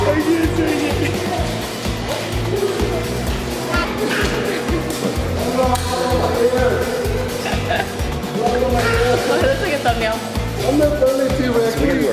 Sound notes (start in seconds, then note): 2.9 laughs; 3.8 children chattering